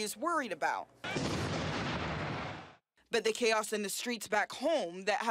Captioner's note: speaking french